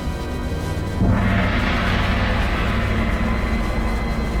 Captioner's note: gong sounds